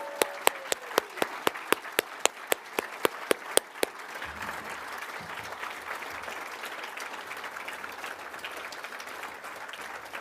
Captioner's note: cheering and applause